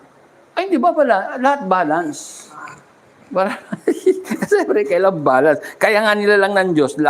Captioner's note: laughter